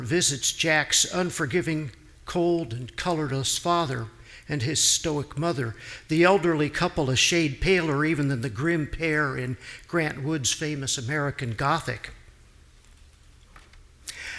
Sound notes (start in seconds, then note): none